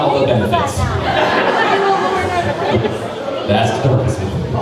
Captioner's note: crowd laughing